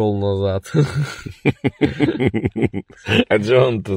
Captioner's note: laughter